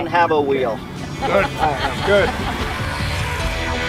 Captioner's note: laughs